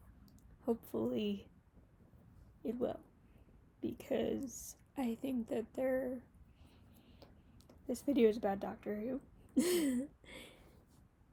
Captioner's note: laughs